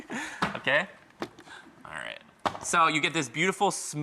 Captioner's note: laughs